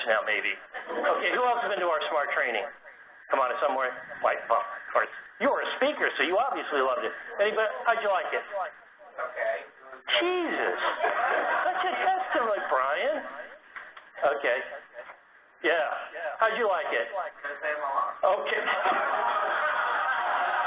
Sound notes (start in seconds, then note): 18.3 laugh